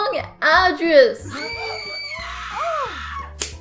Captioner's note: gasping and loud girl screaming